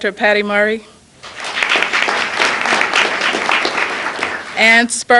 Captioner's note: applause